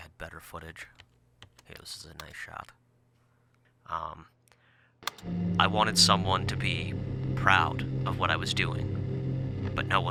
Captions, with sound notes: I wish I had better footage. Okay, this is a nice shot. Um. (static clicks on) I wanted someone to be proud of what I was doing.